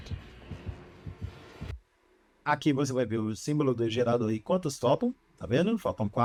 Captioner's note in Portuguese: som de passos